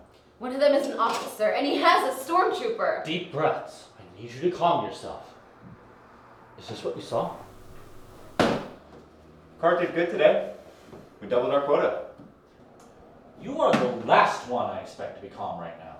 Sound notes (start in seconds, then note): 8.3 box thuds